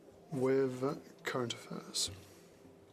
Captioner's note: speaking French